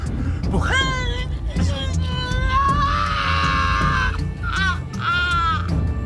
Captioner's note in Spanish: Grito